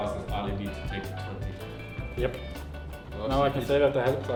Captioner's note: general chatter